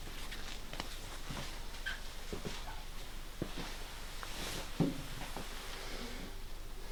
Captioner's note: footsteps